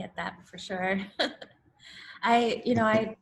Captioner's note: laughs